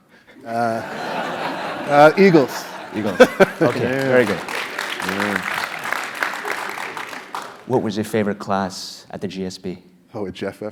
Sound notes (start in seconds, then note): 0.2 laugh; 4.9 applause